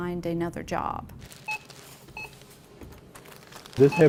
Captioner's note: beeps